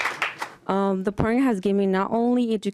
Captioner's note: applause